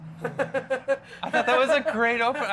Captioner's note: laughs